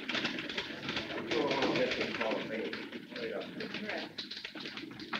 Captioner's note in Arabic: الناس يتحادثون